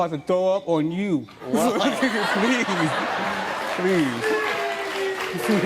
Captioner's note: audience laughing